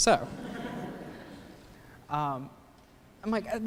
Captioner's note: laughter